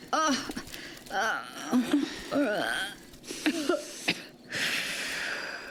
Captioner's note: coughing and groaning